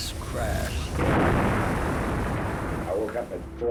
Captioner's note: crashing sound like an explosion